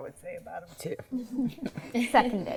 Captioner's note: laughter